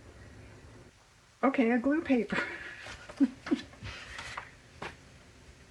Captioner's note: laughs